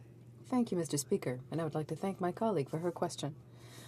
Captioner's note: speaking French